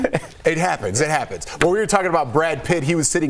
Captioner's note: laughter